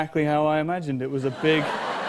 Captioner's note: laughs